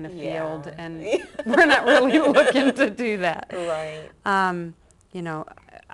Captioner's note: laughter